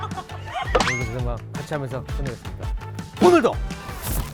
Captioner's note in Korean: 마지막으로 외쳐보는